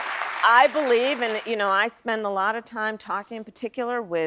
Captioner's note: applause